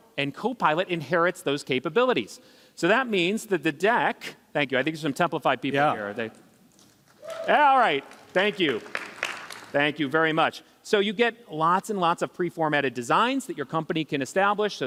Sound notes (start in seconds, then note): 7.1 applause